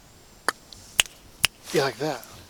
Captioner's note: camera Crew clicking his tongue